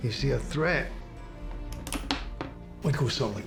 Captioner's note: gun clicking